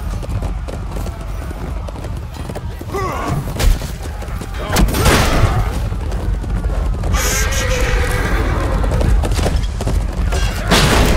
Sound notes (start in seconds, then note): 1.7 battle sounds; 8.0 horse whispers back